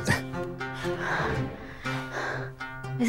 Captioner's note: Sakshi heavy breathing